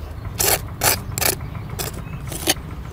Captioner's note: scraping